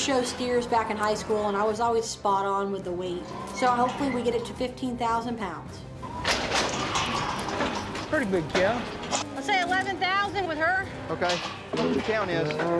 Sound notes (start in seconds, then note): 6.0 gate clanking